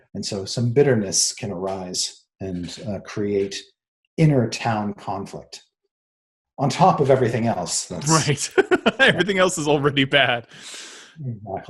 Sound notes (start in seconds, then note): 8.0 chuckles